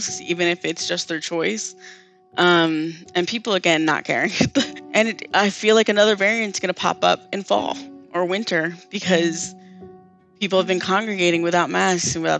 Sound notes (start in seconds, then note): 4.4 chuckles